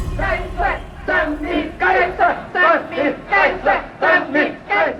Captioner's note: chanting